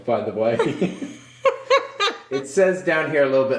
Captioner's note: laughs